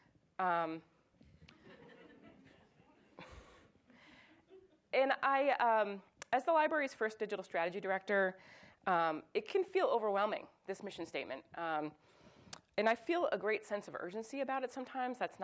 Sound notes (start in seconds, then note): 1.6 audience chuckles